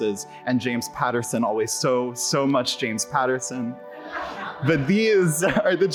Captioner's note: audience laughs